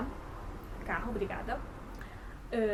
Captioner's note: a car passed